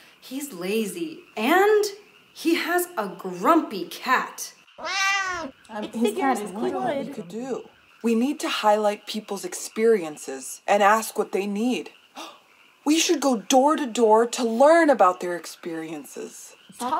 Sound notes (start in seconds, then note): 4.8 cat meows; 5.6 everyone chatting